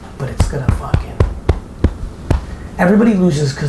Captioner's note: chest pounds